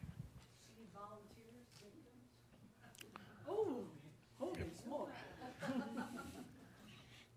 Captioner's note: a few chuckles